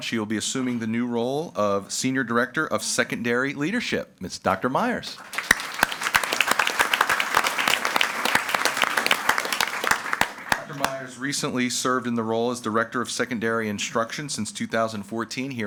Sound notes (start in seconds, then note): 5.0 audience applauding